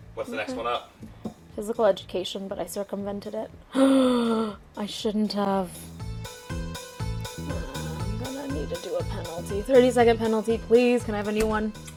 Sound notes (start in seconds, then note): 3.7 gasps